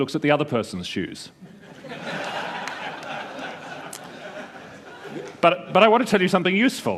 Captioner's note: laughter